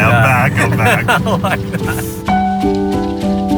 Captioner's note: laughing